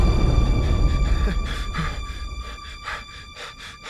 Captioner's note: explosion booms; Aiden panting